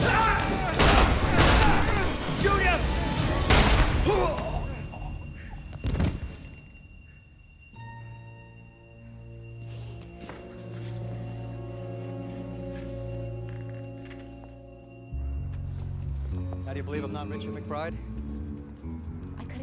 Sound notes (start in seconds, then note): 0.0 gunshots fire; 0.1 Roger shouts; 3.5 gunshot fires; 4.0 Smiler grunts